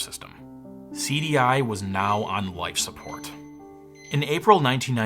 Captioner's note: monitor beeps